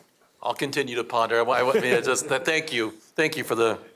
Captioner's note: laughter